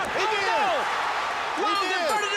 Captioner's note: bell ringing